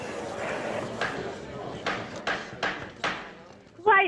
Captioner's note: rap of gavel